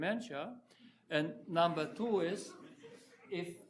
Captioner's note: audience chuckling